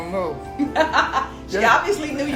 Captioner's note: laughing